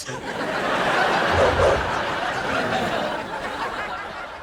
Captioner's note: audience laughs